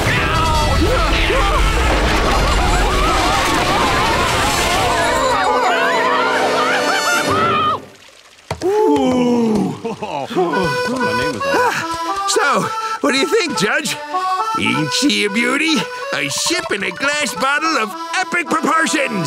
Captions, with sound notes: [screaming] Phew! so, what do you think, judge? Ain't she a beauty? A ship in a glass bottle of epic proportions!